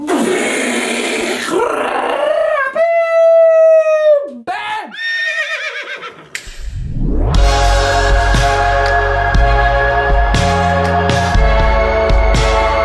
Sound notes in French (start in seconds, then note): 5.0 hennissement de cheval